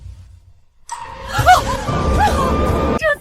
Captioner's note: screaming